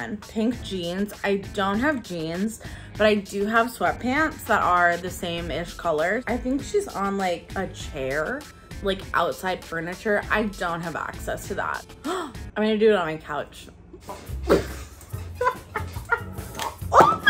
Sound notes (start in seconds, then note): 11.8 gasp; 15.2 laughter; 16.6 squeals